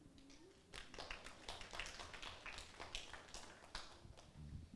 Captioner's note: audience applauds